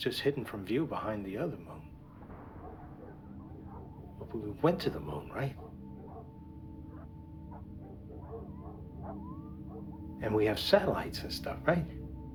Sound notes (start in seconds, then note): 2.0 distant crash; 7.0 dogs barking